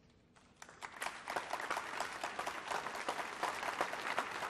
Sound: applause

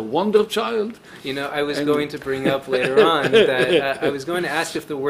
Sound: laughing

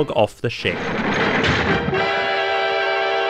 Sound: crashes

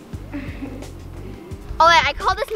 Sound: laughs

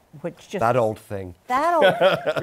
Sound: laughter

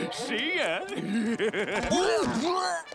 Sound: laughing

